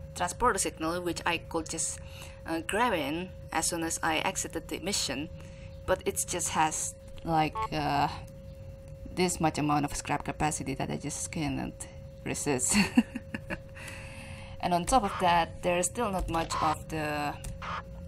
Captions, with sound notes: Transporter signal which I could just grab in, as soon as I exited the mission. But it's just has like uh, this much amount of scrap capacity that I just can not resist. *laugh* And on top of that there's still not much of the...